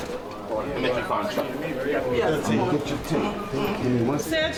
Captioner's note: people chattering